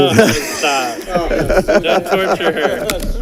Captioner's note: audience laughing